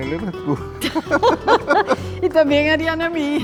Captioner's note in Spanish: laughs